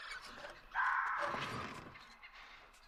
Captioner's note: jungle birds cawing and trilling; frightful squawk